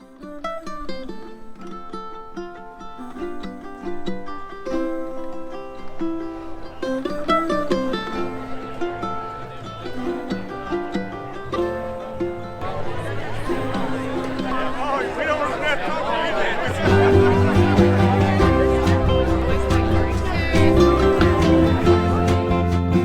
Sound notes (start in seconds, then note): 0.3 gentle Hawaiian music; 13.5 group chattering